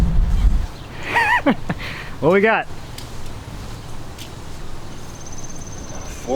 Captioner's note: laughing